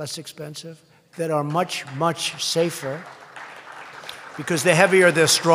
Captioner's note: applause